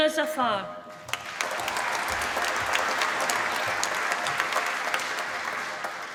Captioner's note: applause